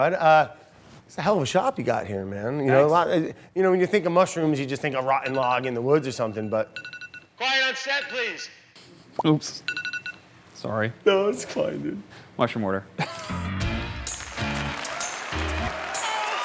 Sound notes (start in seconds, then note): 6.0 phone ringing; 7.6 echoing voice; 13.7 hold music, applause